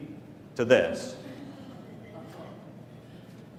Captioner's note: laughter